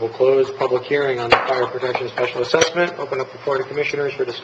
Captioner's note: gavel striking